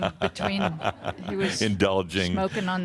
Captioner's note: chuckling